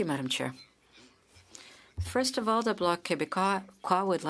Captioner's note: speaking French